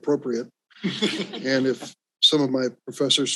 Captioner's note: all laughs